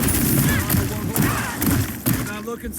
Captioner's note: gun bangs; blows thudding